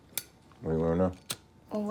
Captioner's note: lighter clicking